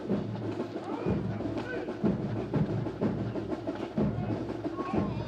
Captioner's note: drums; multiple Troop Commanders shout direction; drums